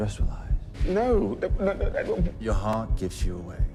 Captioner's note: spluttering